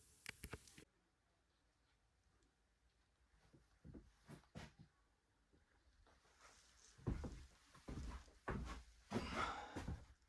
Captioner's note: footsteps